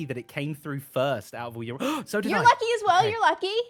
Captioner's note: gasps